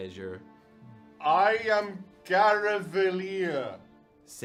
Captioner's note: slowly and at loud volume